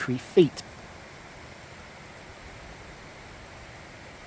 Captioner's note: sound of rushing water